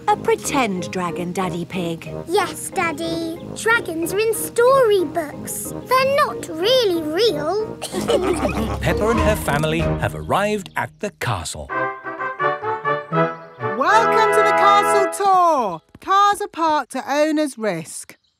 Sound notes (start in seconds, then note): 7.8 all laughing; 11.6 fanfare playing